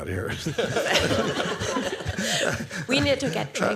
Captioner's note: laughter